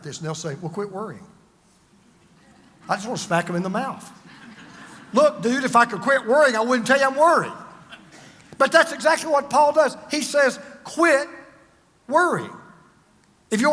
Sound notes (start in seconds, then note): 4.7 congregation laughs